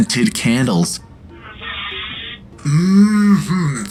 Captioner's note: electronic sniff sound